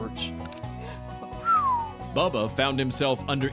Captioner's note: whistles